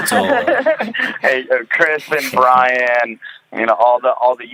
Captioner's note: laughing